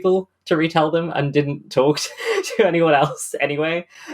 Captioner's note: laughing